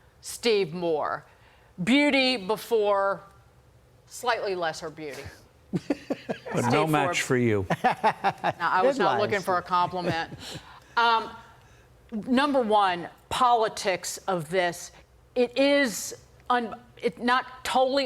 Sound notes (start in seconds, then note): 9.7 laughter